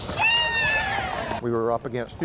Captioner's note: players screaming